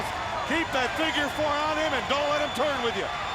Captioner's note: crowd clamoring